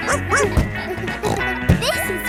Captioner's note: barks; snorts